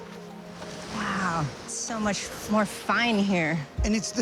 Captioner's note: waves lapping